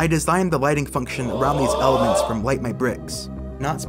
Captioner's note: WIi Sports rising "oh"